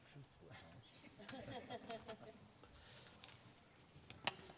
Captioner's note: faculty member laughs